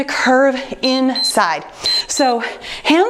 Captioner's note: timer beeps